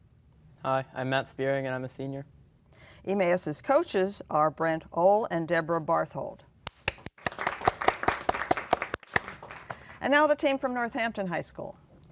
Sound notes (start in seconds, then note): 6.8 applause